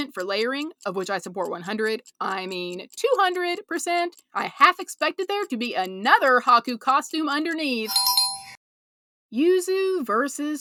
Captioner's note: bell